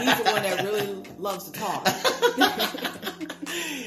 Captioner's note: laughter